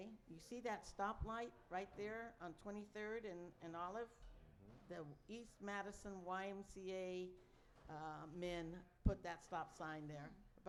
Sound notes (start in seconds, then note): none